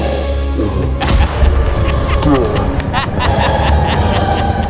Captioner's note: gunshot blaring; Uncle Roger laughing